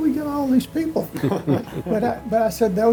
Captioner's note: laughing